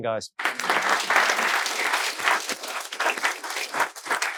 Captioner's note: all applauding